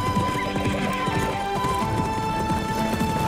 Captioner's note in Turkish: At kişneme sesi